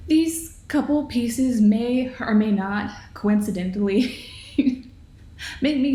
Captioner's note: laughs